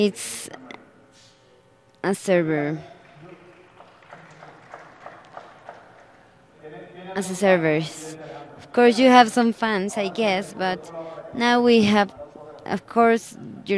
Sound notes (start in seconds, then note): 2.8 applause